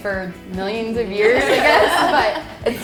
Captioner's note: laughing